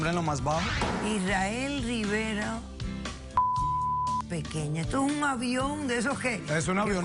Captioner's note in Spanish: Bip